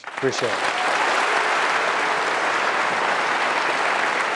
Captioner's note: applause